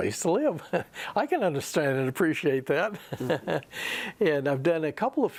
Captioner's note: laughs